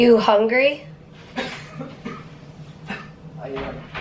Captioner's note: coughing